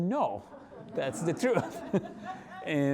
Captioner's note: audience laughing; laughing